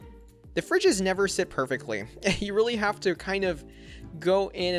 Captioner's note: chuckles